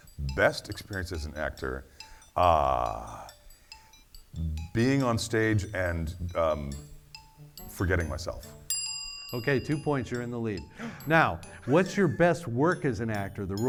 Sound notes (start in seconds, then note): 2.3 timer music; 8.8 bell dings